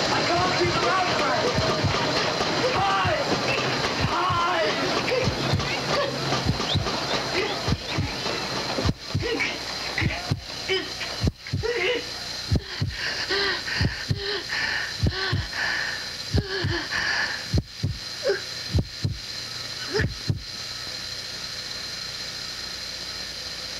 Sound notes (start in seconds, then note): 12.4 crowd sounds fade, leaving amplified heartbeat; 20.0 heartbeat stops